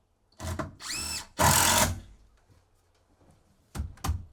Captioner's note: drill whirring